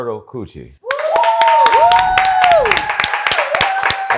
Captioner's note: cheers and applause